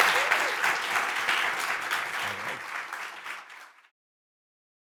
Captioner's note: audience applauds